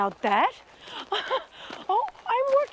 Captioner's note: laughs